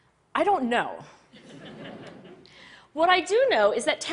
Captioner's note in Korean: 웃음